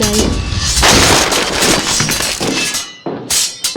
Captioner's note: loud crash